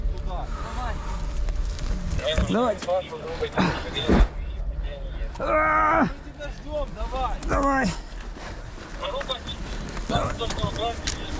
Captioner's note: groaning